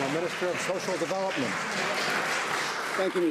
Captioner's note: some Applause